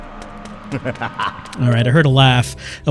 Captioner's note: crazed laughter